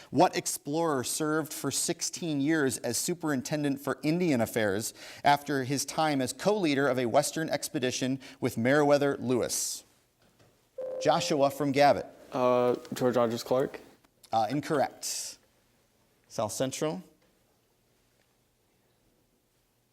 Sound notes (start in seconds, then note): 10.8 ding